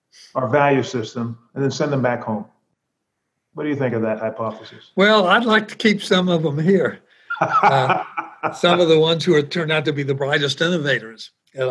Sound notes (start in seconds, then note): 7.3 laughter